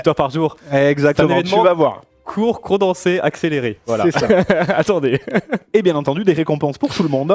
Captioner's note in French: rires